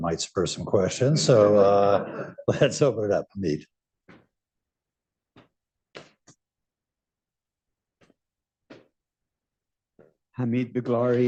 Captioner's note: laughter